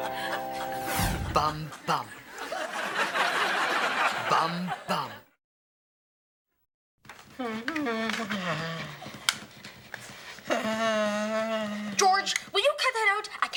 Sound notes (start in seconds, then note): 1.2 audience laughing; 7.7 George humming